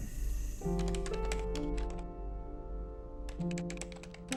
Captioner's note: keypad beeping